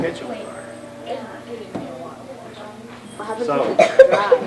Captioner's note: children chattering